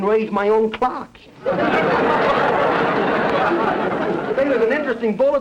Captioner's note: audience laughter